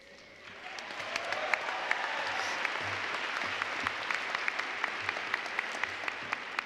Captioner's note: applause